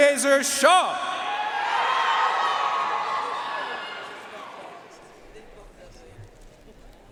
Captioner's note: audience cheering and applauding